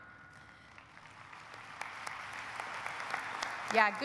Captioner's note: audience applauding